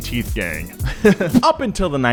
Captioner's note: giggles